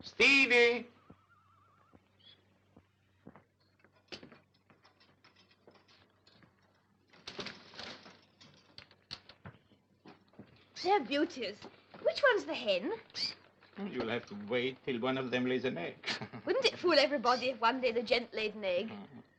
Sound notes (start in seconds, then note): 16.0 laughs